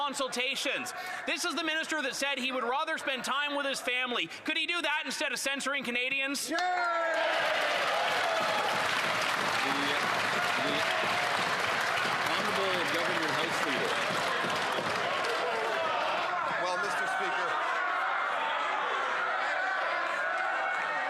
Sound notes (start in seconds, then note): 10.1 some Applause